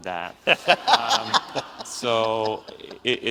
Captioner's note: audience laughs